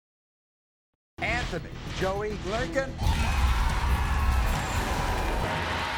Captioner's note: audience cheers